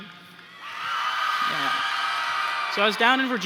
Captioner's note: cheering